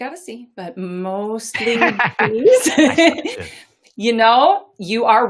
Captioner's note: laughs